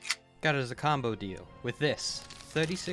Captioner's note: gun slide racks; paper bag crinkles